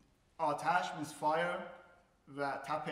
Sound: speaking in farsi

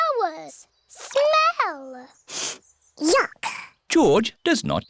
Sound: sniffs

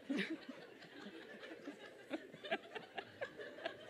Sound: laughter

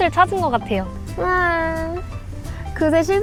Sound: crying 😭

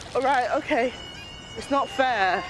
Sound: sirens sound

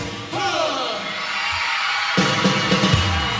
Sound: music stops and crowd cheers

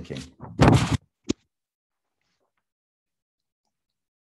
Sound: paper shuffling

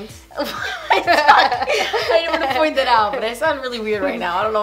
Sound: laughing

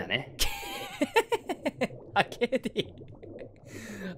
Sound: laughs

